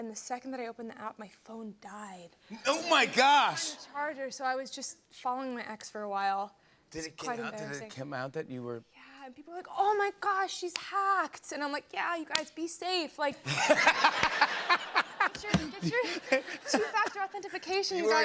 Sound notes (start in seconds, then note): 13.4 laughter